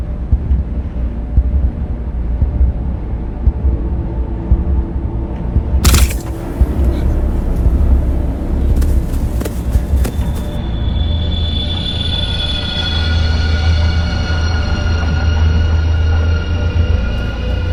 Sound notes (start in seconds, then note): 5.8 shots firing; 9.2 footsteps rustling; 10.6 tense, shrill music